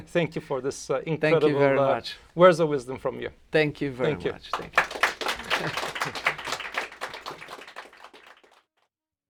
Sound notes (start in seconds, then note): 4.4 applause; 5.3 laughter